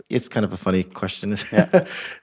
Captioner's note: laugh